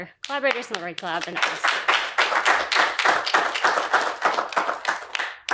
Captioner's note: applause